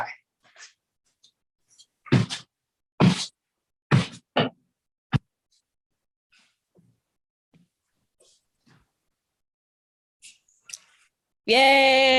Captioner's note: feet make brushing and low thumping sounds against the floor